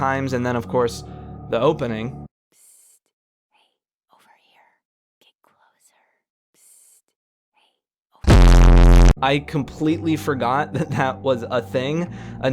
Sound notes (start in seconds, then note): 2.2 whispering; 8.2 bass boosted sound